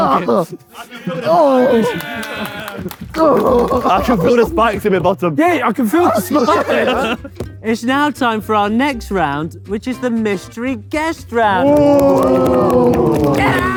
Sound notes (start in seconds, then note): 0.0 group laughs; 0.8 group cheers